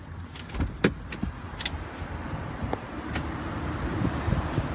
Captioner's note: car door opening